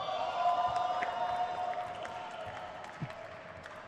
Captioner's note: crowd cheers